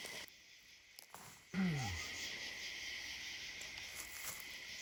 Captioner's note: insects chirping